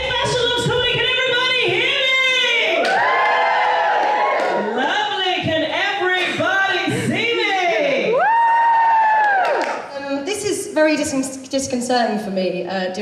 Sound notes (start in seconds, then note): 2.4 audience Cheers; 7.5 audience Cheers